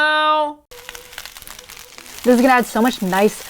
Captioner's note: dish sizzling